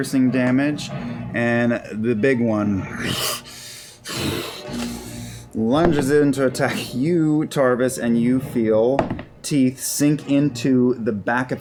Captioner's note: snarling noise